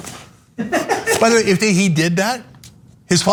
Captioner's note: laugh